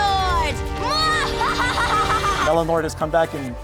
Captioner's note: laughs